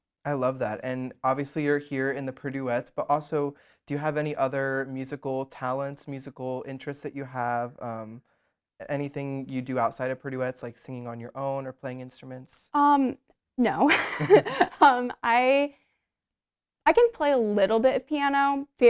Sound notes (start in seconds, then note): 13.8 both laugh